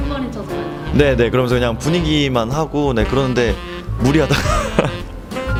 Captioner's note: laughs